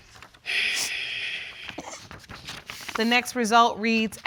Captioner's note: sighing